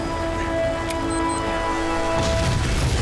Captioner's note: beeps